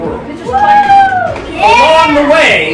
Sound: cheering

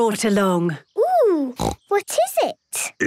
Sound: snorting

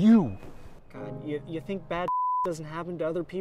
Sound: beep

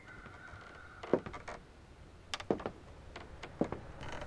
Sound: porch creaking

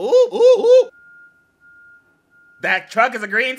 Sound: truck beeping

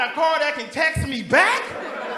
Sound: laughing

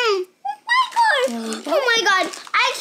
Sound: squeals

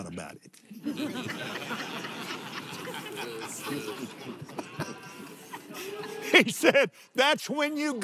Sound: laughs

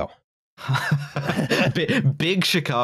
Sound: laughter

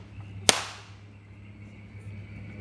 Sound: gun shot

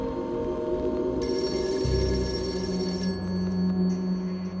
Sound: phone ringing

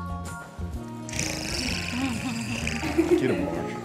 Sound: Vanessa screams; Vanessa purrs; people laughing; man mumbles

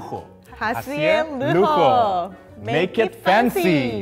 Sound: speaking in foreign language

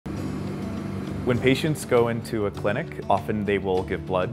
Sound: machine humming

